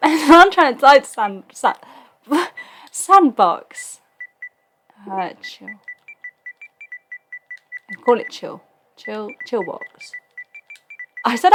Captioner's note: laughs